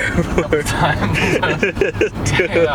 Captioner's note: laughter